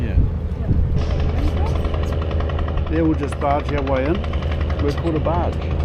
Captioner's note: boat motor noises